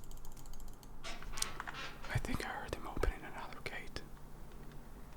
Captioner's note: whispers